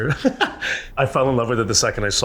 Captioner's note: chuckles